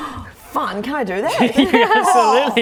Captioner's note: laughing